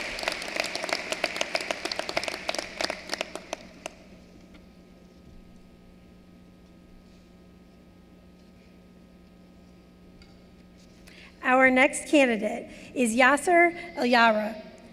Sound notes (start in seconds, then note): 2.4 applause